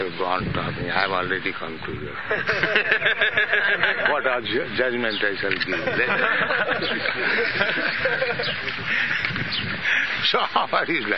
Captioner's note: laughter; laughs